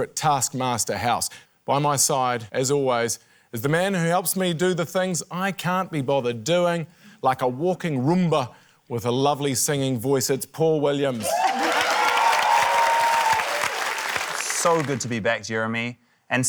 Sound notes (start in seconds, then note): 11.1 cheering, applause